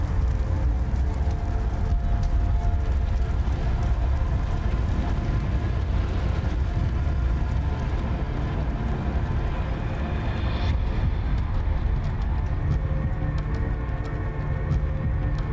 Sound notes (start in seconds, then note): 0.0 fire crackling